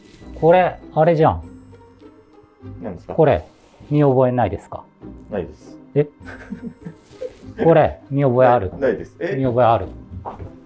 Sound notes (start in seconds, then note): 6.0 laughing